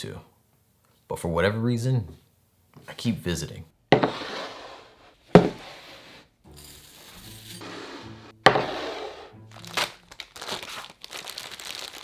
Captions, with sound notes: to. But for whatever reason, I keep visiting. [bowl sliding] [oats pouring] [plastic bag rustling]